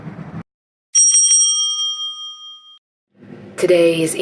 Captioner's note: bell rings